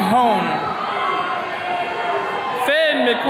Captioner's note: attendees cheering